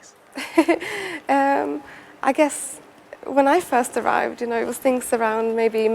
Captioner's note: laughing